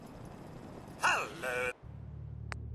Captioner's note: robot speaking-Hello